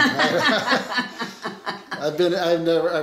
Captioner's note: both laughing